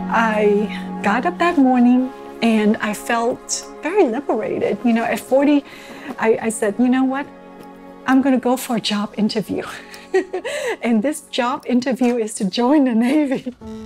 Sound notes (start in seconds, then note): 10.0 laughs